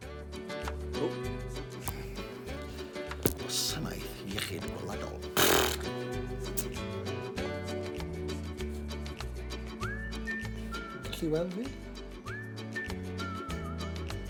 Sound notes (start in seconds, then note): 1.7 bright, upbeat music; 5.3 blows a raspberry